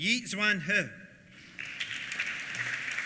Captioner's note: applause